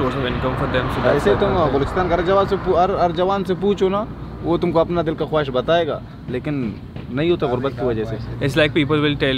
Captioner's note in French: Langue locale